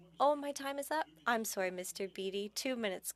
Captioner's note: speaking French